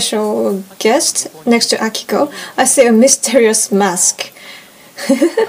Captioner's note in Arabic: يضحك